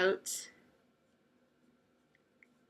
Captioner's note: long pause